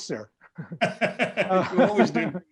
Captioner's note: laughing